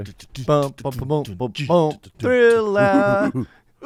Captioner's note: men beatboxing